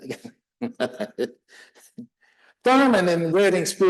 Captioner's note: laughing